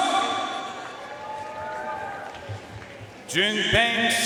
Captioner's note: audience cheering and applauding